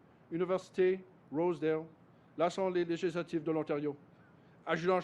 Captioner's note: speaks French